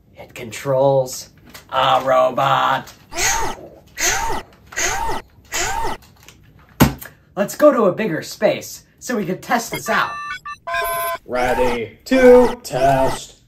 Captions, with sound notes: It controls a robot. (robot blasting) Let's go to a bigger space so we can test this out. (robotic beeping) (robot voice) Ready to test.